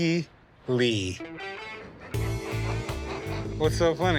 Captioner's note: laughs